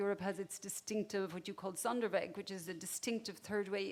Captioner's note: speaks a foreign language